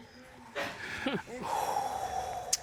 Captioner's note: judge exhales sharply